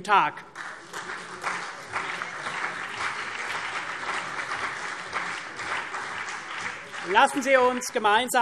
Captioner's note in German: Beifall CDU und BÜNDNIS 90/DIE GRÜNEN